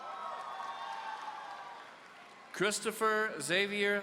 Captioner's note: audience cheering